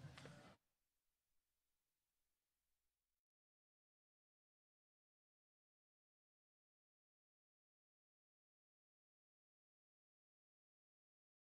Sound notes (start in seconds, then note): 1.1 applause